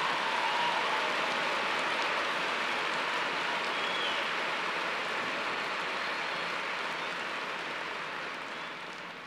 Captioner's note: cheers and applause